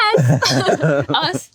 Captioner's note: both laugh